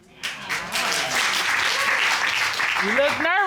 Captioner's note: applause